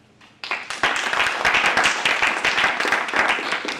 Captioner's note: applause